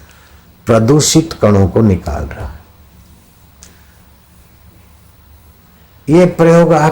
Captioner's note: upon exhalation